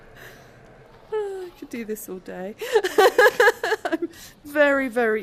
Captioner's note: laughing